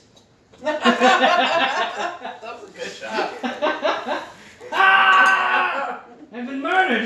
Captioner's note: laughter